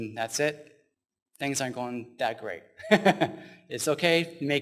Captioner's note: laughs